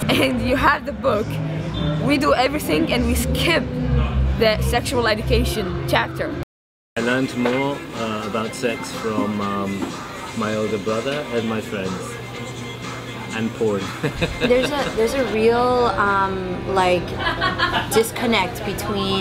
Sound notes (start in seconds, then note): 13.9 laughs